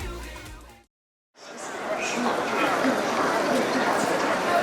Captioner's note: bustling